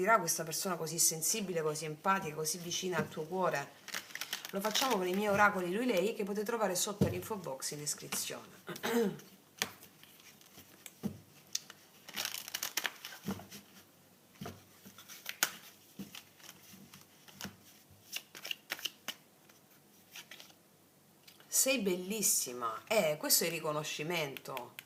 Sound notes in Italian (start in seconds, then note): 13.1 schiarire la voce